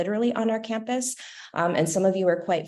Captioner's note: laughter